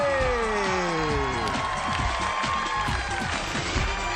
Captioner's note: applause, theme music